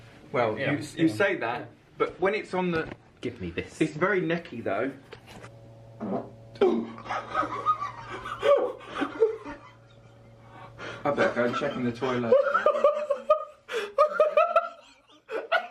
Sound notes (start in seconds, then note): 6.5 fart bursts; 7.4 gasp; 10.9 laugh; 12.9 laughs